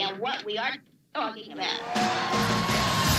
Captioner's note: crowd cheering